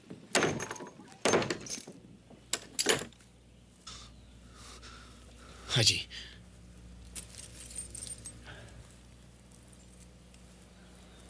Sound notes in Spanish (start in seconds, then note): 3.5 John suspira